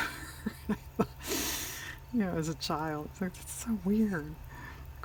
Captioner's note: laughs